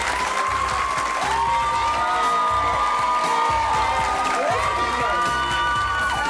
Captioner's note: cheering; smooth jazzy music